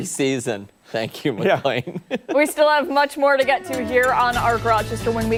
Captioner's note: laughter